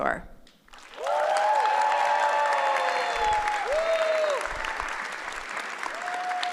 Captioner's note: applause